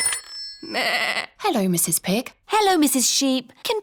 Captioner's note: phone rings; bleats